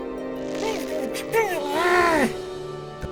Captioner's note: struggling